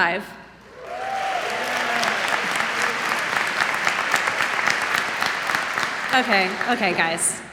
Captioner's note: unenthusiastic applause